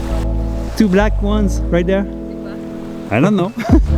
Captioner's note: birds